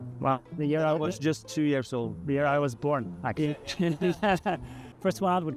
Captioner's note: laughing